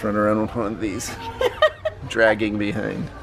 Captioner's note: laughs